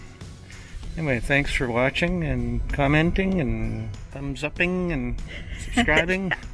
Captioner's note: laughs